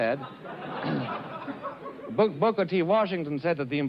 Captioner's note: crowd laughs